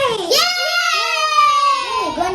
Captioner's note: kids cheering